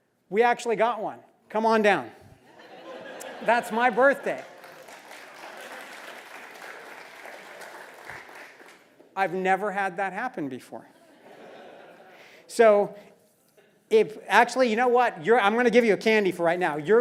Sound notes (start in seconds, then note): 2.5 laugh; 3.7 applause; 11.0 laugh